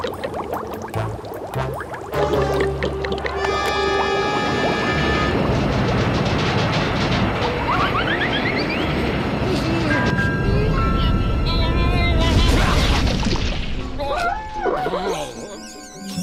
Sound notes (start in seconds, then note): 0.0 loud bubbling; 4.9 machine rumbling; 9.3 groans; 14.6 glass squeaking